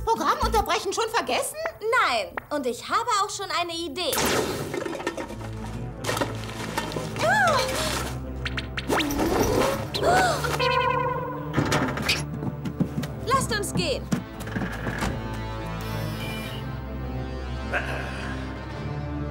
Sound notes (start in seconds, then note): 4.7 clattering; 17.7 grumble